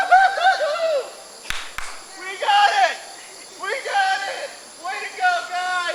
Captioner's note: clap clap